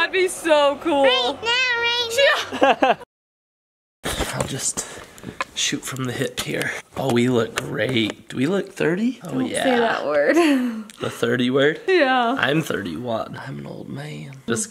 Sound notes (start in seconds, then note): 2.2 laughs